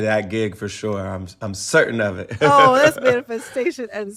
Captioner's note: laughter